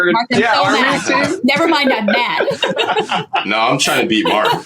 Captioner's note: both laughing